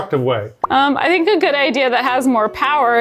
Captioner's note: graphic pop